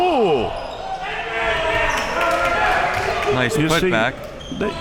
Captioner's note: audience chattering and yelling